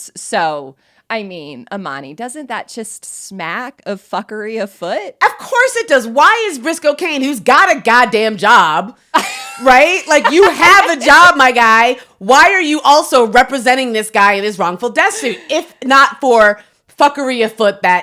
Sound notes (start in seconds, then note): 9.2 laughing